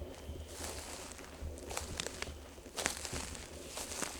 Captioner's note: leaves crunching